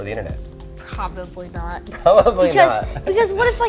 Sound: laughs

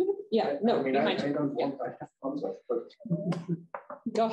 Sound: chuckles

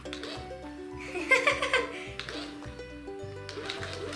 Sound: laughs

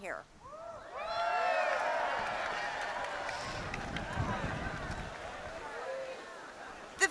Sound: cheering, applause

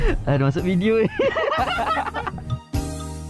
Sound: laugh

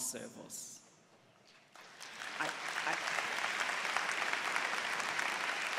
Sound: applause

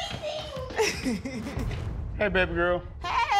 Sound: laughs

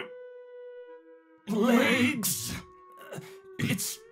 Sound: Elijah grunting; distorted voice

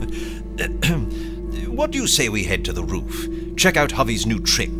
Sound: laughs

